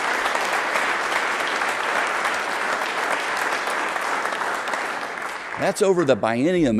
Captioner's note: applause